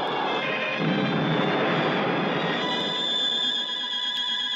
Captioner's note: explosion booming